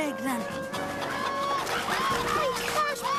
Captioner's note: chickens clucking loudly